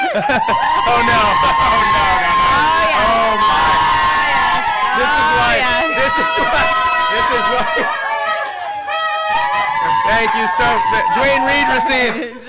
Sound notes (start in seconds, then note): 5.6 cheering